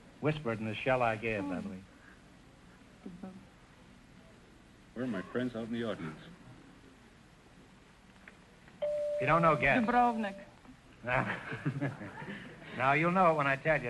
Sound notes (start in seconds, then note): 8.8 chime rings; 11.1 chuckling